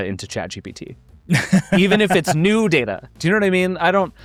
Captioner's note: laughing